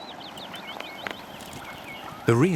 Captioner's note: birds singing